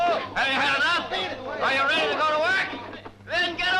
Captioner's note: shouting